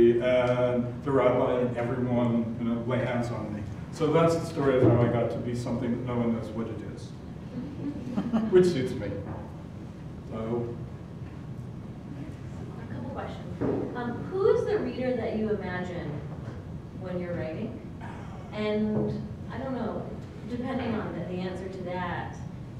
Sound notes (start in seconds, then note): 7.6 laugh